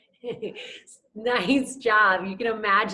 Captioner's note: laughs